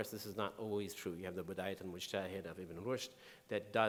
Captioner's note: speaking in foreign language